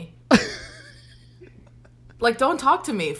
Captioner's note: laughs